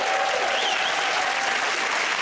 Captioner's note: cheers and applause